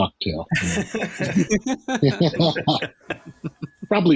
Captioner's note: laughter